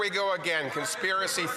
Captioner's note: some Applause